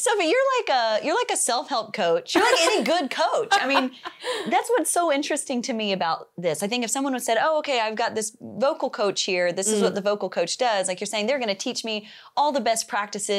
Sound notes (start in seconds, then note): 2.3 laughs